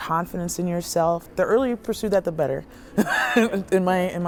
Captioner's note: laughs